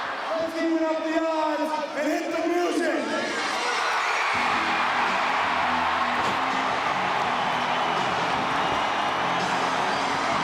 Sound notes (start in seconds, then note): 3.3 audience cheers